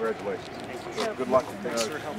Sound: camera clicking

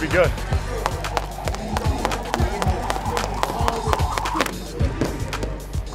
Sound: skipping rope noise

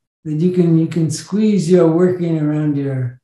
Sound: none

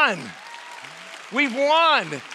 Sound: audience applause

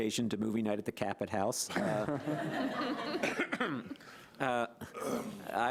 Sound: audience laughing

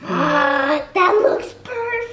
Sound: gasp

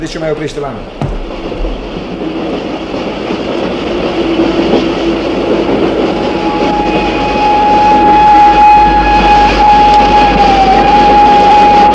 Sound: the express train whistles and stops at the station

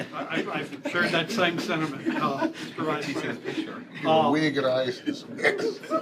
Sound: laughter

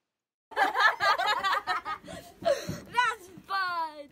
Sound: kids laughing

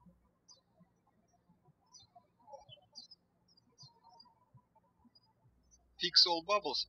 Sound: birds chirping

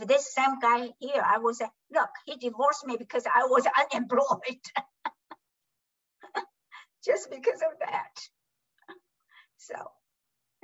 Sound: laughs

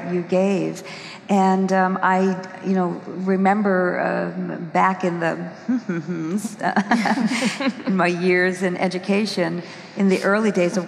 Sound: hmm...hmm...hmm

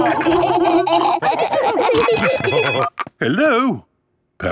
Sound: laughing; phone ringing

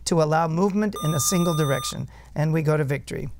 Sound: buzzer

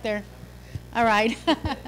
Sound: laughing

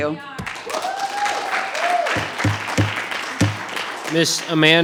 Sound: audience applauding

